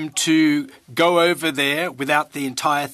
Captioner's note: speaking French